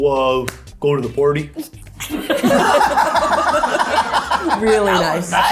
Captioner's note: group laughs